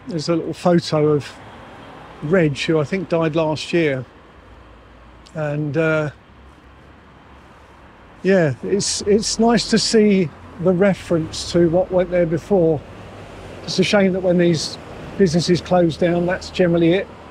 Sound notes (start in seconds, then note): none